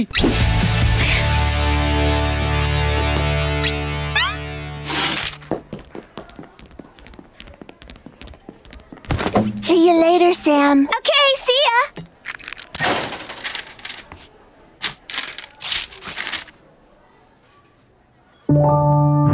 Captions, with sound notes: [sighing] -See you later, Sam. -Okay, see ya!